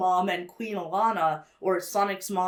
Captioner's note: none